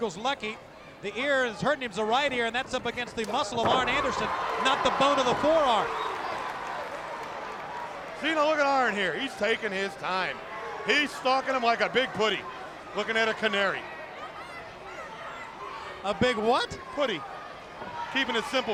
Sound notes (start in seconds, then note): 7.7 crowd cheering